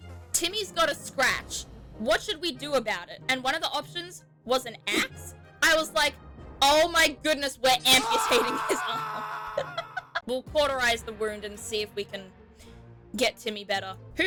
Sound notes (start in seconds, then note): 8.0 laughs